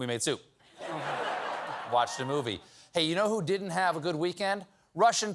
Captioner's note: cheers and applause